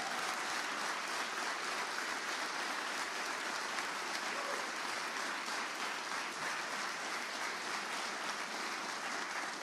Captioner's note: applause